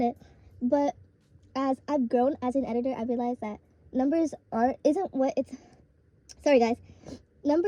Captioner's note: stammers